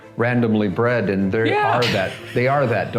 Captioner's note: laughing